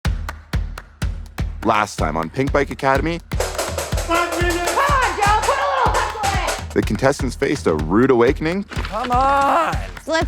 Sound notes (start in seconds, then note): 0.2 upbeat music; 3.4 yelling; 3.4 pans clanging